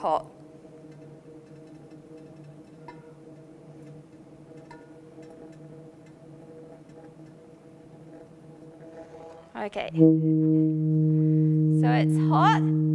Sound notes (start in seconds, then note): 0.0 sound of flame burning through tube; 9.8 french horn like sound through tube